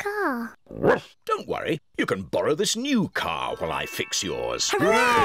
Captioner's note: oinks; barks